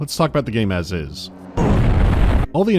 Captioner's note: boom